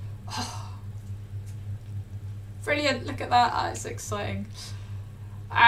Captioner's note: gasps